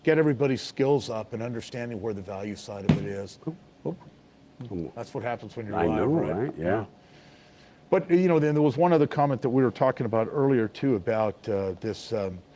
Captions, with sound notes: get everybody's skills up and understanding where the value side of it is. (laptop thumps) That's what happen when you're live right. But then there was one other comment that we were talking about earlier too, about this,